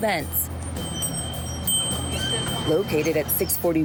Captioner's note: chime tinkling